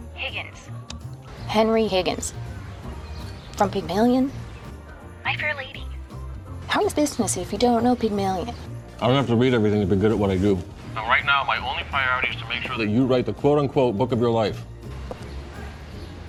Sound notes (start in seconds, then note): none